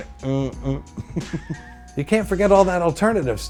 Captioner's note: chuckles